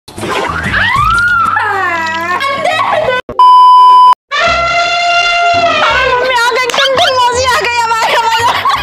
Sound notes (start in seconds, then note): 0.4 screaming